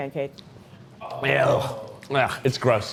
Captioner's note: groans in disgust